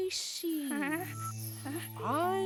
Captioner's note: quavers